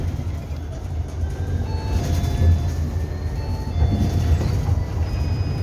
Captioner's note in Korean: 하차벨 소리